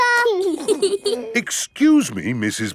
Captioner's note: both giggling